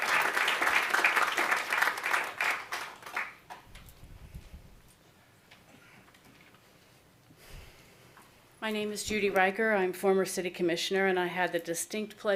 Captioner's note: applause